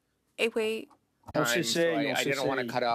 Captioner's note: speaking French